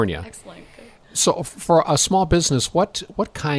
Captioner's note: voiceover